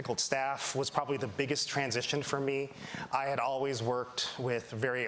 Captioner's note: none